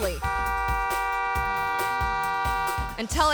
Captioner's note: horn honking